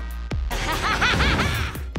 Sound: laughing maniacally

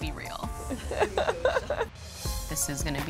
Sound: laughs

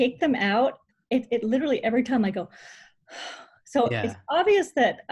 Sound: sighs heavily

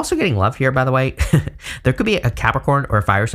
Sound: chuckles

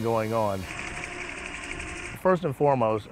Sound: wheel belt moving

